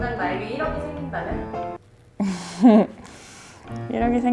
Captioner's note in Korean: 절로 새어 나오는 웃음